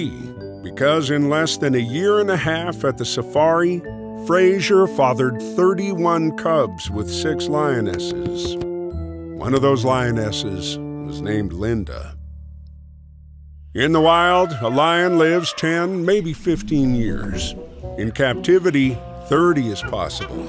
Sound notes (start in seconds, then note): 7.4 plopping; 13.9 elephant trumpeting